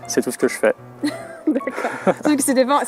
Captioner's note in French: rires